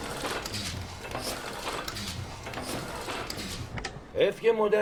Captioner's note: machine noises